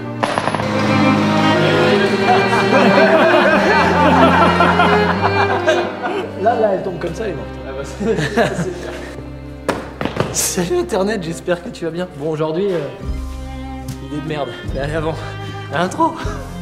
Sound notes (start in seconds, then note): 2.8 laughs; 7.8 laughs